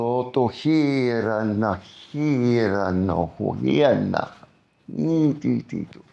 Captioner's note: non-english speech